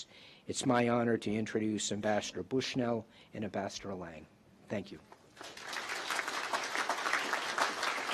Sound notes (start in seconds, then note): 5.3 applause